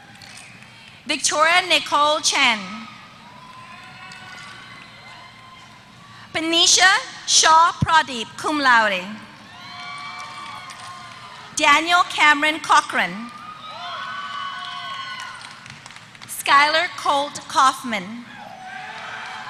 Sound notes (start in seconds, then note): 0.0 applause; 3.0 applause; 14.2 applause; 18.8 applause